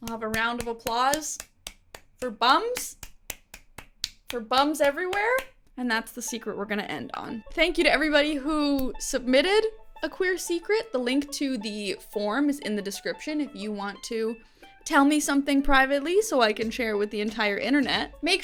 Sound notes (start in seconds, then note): 3.0 clapping hands